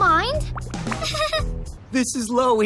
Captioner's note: deluded giggle